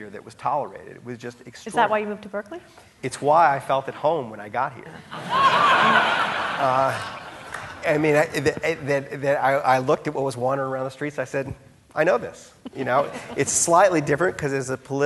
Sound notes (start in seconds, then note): 5.0 audience laughing; 12.6 chuckling